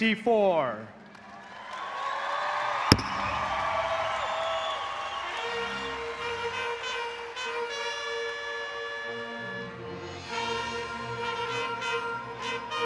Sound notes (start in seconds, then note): 1.2 audience cheering; 5.4 celebratory music